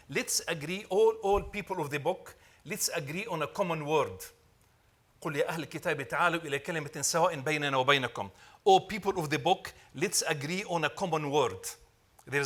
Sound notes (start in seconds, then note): 5.5 speaking Arabic